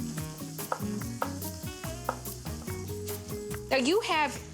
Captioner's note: knife chopping